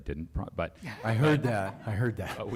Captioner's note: laughter